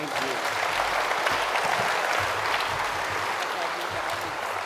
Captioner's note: audience applauds